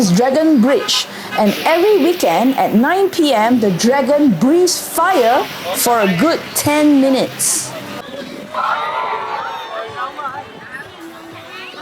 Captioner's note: screaming